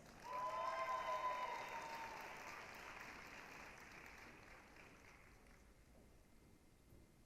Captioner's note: applause, cheering